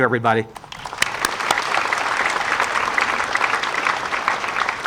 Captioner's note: audience applauding